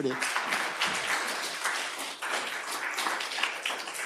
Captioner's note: attendees applauding